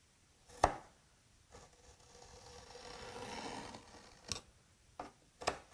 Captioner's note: knife on wood scraping